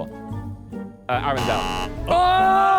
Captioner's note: buzzer buzzes; panel shouts